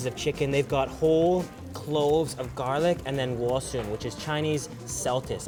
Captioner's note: foreign language